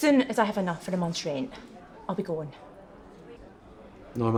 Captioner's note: none